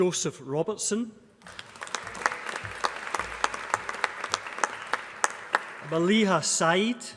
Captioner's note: applause